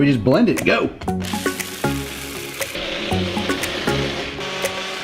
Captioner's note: blender whirs